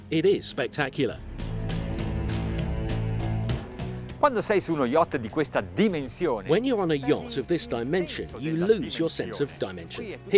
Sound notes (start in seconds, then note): 0.8 dramatic music; 4.6 speaking in foreign language